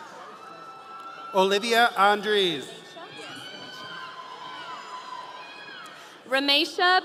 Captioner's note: audience cheering